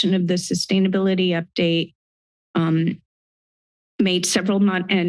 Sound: none

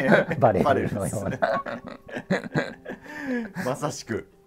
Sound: laughing

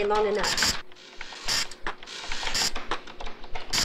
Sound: printer running

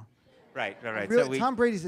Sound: audience laughs

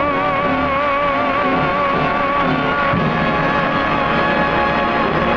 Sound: audience applauding

